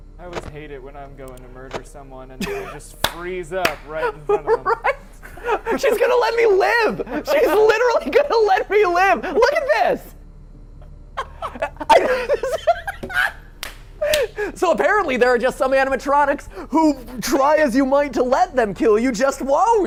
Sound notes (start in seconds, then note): 3.8 laughs; 11.1 laughs